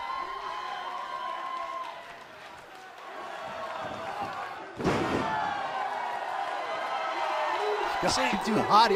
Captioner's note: crowd cheering